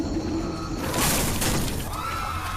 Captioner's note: crashes